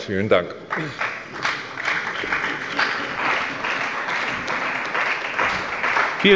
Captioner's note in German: Beifall bei der CDU und dem BÜNDNIS 90/DIE GRÜNEN